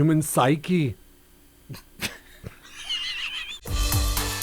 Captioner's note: both laugh; upbeat music